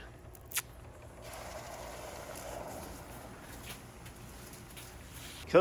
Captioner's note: bubbling sounds